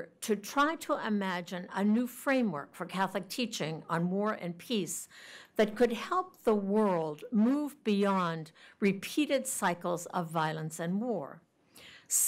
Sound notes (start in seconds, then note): none